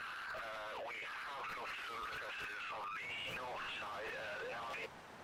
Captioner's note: radio chatter-Flash back to Northern Ireland